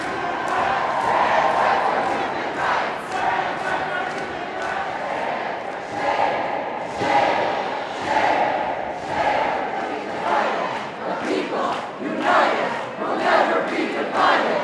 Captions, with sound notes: [chant] Shame! Shame! Shame! [chant] The people united will never be divided!